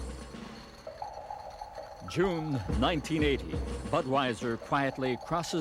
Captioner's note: bottles rattling